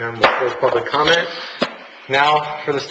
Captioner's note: gavel bang